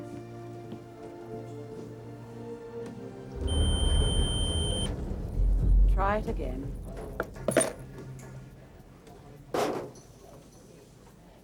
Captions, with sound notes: (metal detector beeps) (dramatic music) - Try it again.